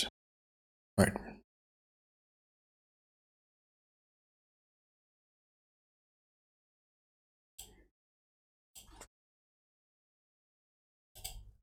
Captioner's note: blank Audio